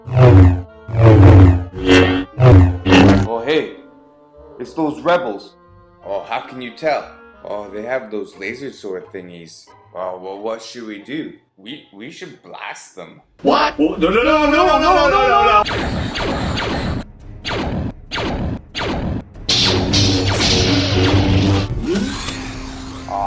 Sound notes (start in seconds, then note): 0.9 beam rod sounds; 15.7 gunfire; 19.5 beam rod sounds